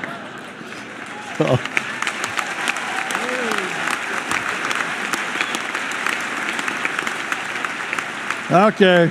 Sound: laughter; applause

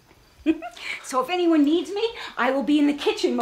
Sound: laughs

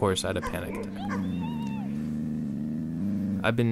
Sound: growling

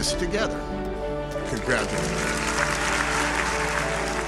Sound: applause

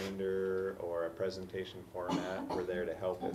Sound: cough

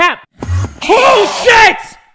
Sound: Enderman poof; Enderman screams

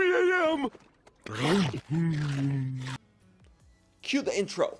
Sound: eating

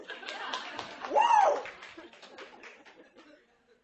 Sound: applause

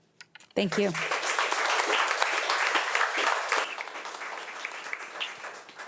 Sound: audience applauding

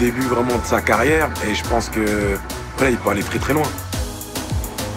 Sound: none

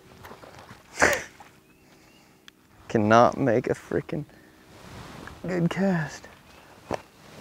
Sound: laughs

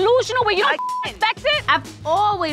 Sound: beep

